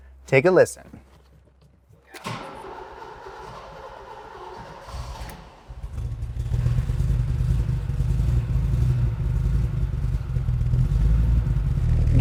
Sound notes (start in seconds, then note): 2.6 engine turning over; 7.5 engine revving